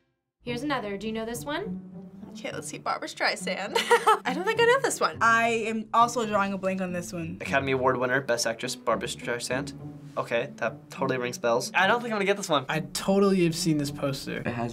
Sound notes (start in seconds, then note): 3.7 laughs